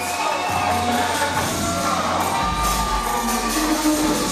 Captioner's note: audience cheering